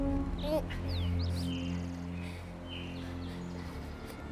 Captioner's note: Josey grunts; menacing, dark music